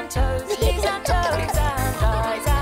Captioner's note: giggling